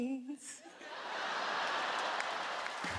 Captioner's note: laughter; upbeat music